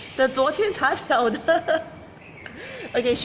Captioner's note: speaking in foreign language